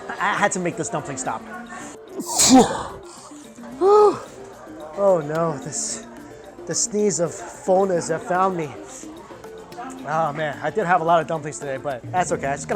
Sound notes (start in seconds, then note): 2.2 sneezes